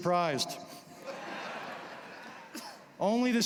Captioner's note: laughter